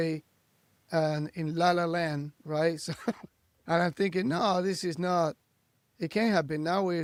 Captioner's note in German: lacht